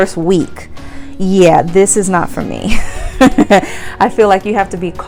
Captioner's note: laughs